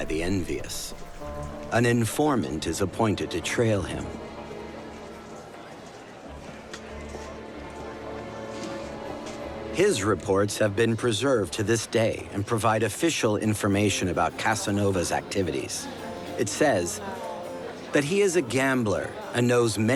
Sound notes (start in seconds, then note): 3.3 music becomes ominous; 4.9 background clamor